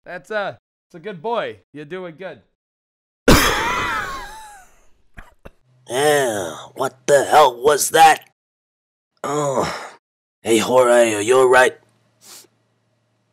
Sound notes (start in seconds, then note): 3.2 coughs; 9.2 grunts